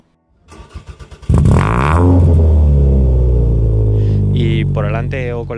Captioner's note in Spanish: Sonido del coche arrancando